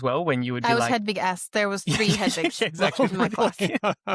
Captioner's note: laughter